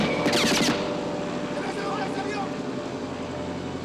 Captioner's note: plane engine revs; man speaking Spanish